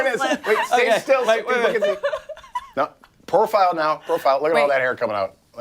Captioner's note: laughter